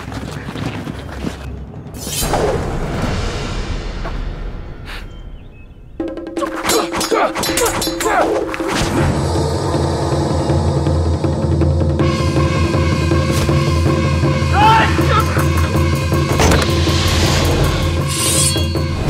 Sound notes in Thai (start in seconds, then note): 2.1 เสียงกระบี่; 6.3 เสียงการต่อสู้; 18.1 เสียงกระบี่